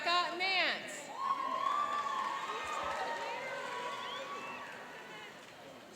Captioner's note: cheering and applauding